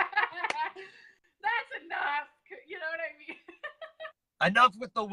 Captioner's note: laughs; laughs